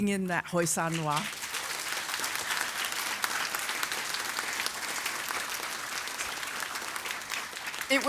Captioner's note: applause